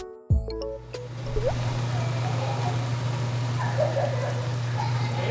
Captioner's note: steam